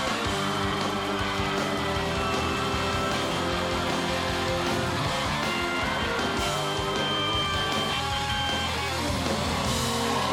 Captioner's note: cheers and applause